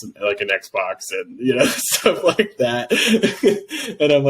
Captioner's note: laughs